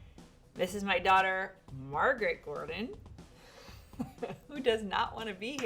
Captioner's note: laughs